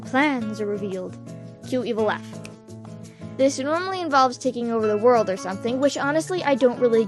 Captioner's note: snap